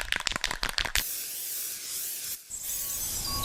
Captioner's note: spray can shakes